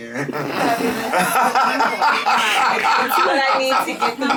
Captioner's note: laughing